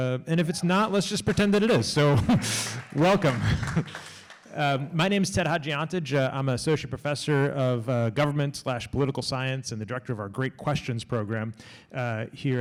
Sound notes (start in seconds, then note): 0.4 laughs; 2.4 audience claps